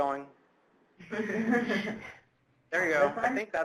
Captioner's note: laughs